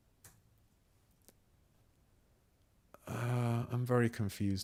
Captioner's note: silence